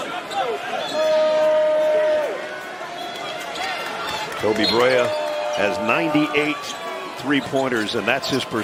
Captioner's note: cheering